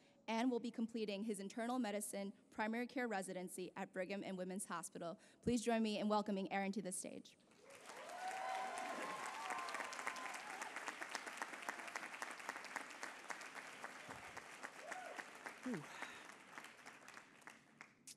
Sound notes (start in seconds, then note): 8.3 applause